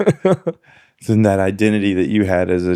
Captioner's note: laughs